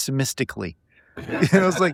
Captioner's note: laughing